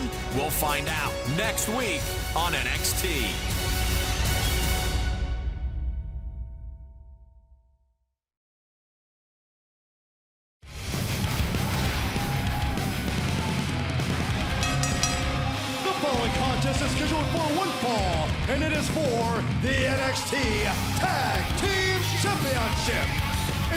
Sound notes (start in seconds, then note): 14.7 crowd cheering; 16.1 bell ringing